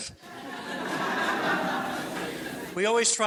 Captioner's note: audience laughs